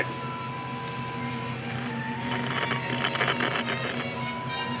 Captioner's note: radio crackles